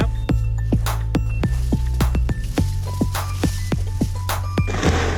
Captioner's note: upbeat music; fence rattling; can thudding